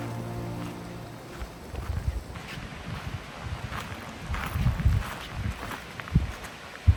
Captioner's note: footsteps